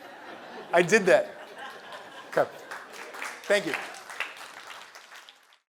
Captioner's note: laugh; applause